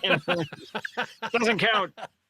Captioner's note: laughing